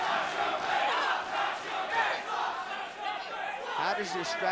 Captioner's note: crowd cheering